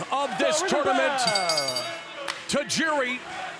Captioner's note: bell rings